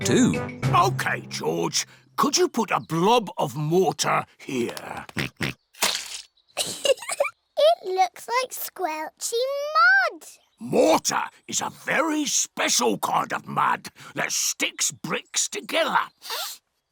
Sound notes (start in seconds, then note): 5.1 oinks; 6.6 giggles